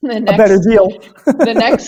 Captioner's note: laughs